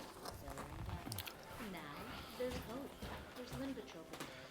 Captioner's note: tv playing